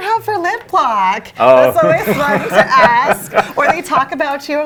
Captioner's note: laughing